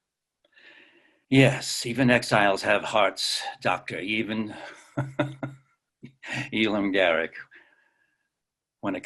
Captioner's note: laughs